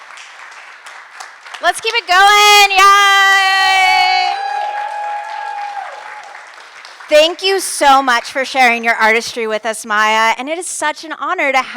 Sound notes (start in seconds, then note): 3.5 audience cheer and applaud